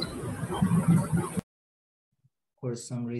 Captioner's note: background static